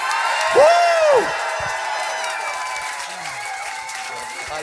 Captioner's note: cheers and applause